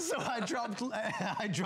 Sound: laughter

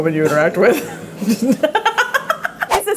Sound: laughing

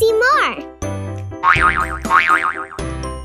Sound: boing boing

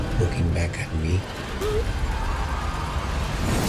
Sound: suspenseful music; gasps

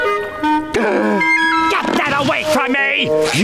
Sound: gasps

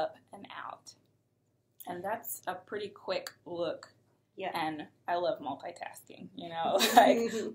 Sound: chuckles

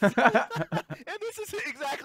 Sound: laughing

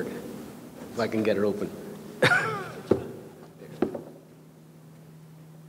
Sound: chuckles

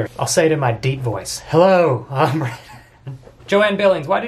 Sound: laughs

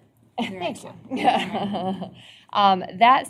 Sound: laughter

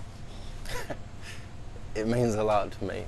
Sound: chuckles

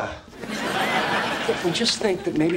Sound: audience laughing

